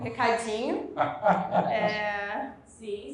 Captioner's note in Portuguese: risos